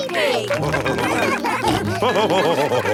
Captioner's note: all cheering; laughing